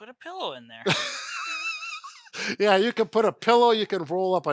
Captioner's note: laughs